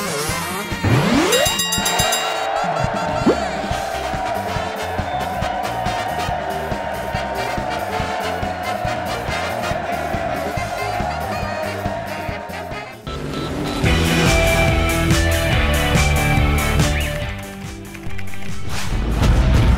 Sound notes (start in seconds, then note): 1.1 dinging; 1.4 cheering